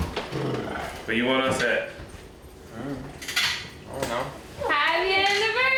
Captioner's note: pops